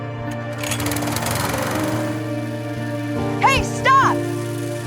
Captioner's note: engine rumbling